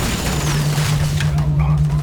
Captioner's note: rumbling